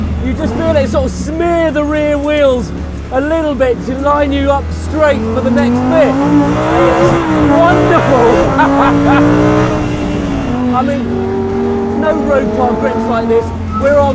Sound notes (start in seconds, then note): 6.4 engine roaring